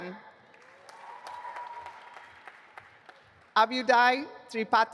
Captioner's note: audience applauding